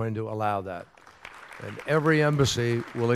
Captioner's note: applause